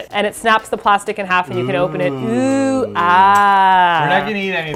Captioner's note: ooohh